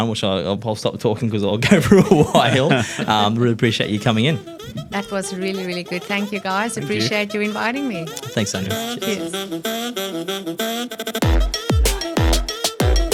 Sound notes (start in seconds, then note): 3.2 laughs; 9.9 upbeat hip hop music